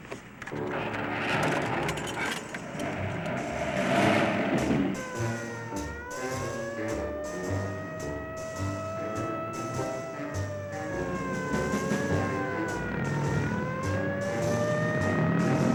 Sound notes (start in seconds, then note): 5.0 slow bluesy jazz music; 8.4 sirens wailing